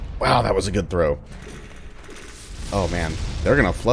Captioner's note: more clattering